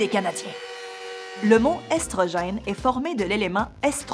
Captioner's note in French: alarme de but